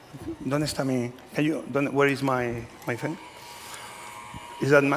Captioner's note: spanish